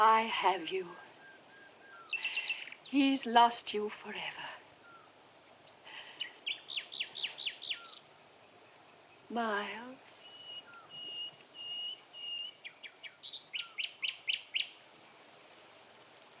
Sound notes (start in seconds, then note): 10.2 chirping continues